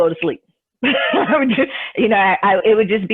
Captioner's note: laughs